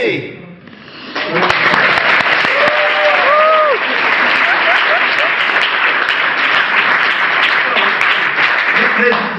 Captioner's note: crowd cheers